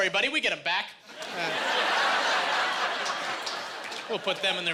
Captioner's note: laughing